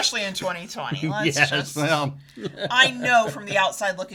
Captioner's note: laughing